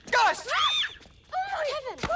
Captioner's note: both scream